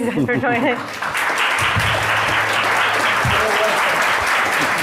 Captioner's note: audience clapping